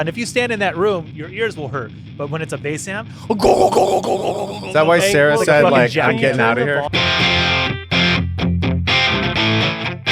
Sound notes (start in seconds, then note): 3.2 imitates bass amp; 6.9 guitar music